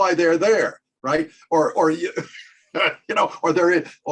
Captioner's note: chuckles